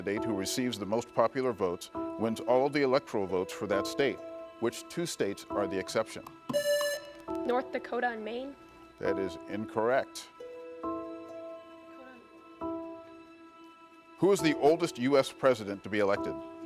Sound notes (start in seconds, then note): 6.5 buzzer rings